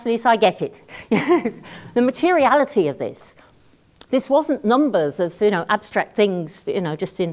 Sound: laugh

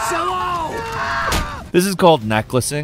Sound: Marcelo screaming; fist thuds

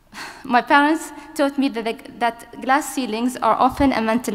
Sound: sighs

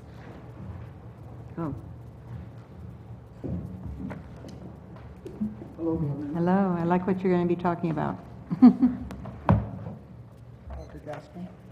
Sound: laugh

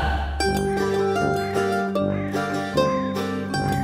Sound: crow caws

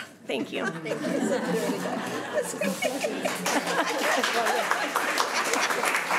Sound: crowd giggling and clapping

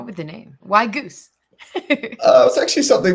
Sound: laughs

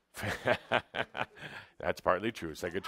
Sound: chuckling

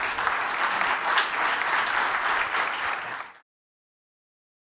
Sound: applause

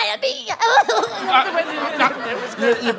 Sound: laughing; Gollum voice

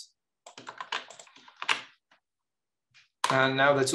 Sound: keyboard clattering

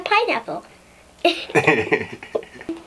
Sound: laughter

